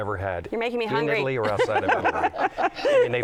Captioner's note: laughter